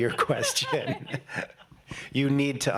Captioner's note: laughing